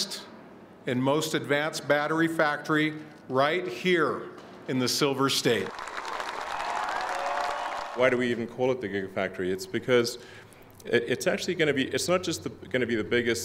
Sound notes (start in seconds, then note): 5.6 audience cheering